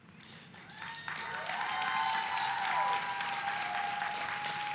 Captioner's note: audience applauding